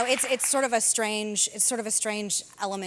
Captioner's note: cheers and applause